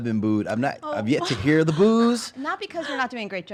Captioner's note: laughs